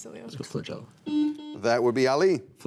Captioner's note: buzzer rings